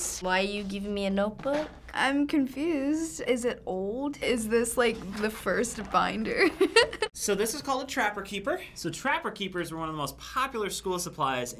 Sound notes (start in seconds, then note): 6.4 giggling